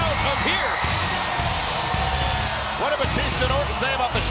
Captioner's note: audience cheers